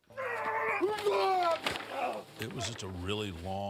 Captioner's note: Undertaker and AJ grunting